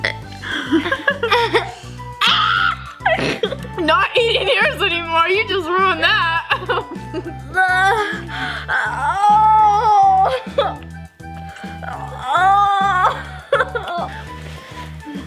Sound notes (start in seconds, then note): 0.2 gags; 0.5 chuckles; 2.2 screams; 7.3 groans; 13.3 whimpers